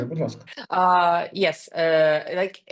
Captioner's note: speaking ukrainian